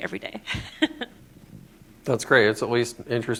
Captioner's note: laughter